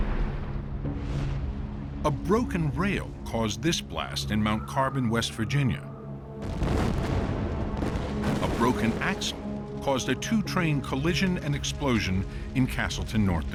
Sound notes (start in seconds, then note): 6.4 explosions